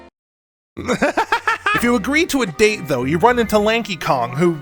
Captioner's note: laughs